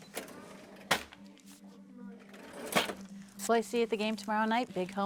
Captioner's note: cash register clinks